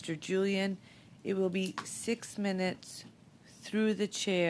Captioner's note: speaking French